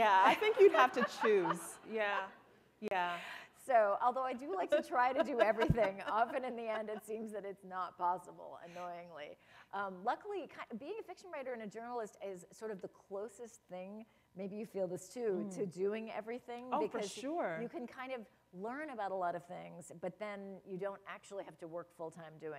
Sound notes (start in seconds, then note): 4.5 laughter